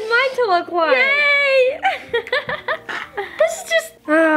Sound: laughs

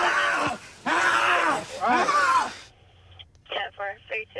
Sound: screaming

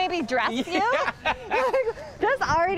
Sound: laughing

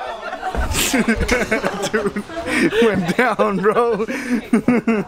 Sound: laughing and yelling; laughing

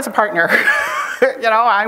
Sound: chuckles

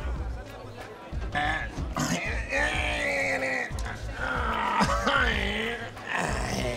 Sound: groaning

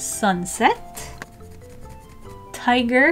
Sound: pencil scratching

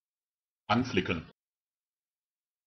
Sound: fast Pronunciation

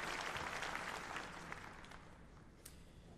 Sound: applause

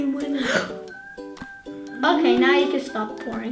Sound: gasps

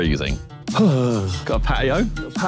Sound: Simon groaning

